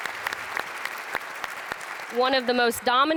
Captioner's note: audience applauds